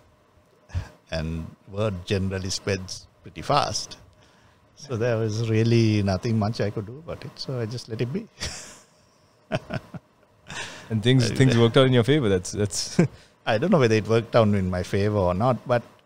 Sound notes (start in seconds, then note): 9.5 laughs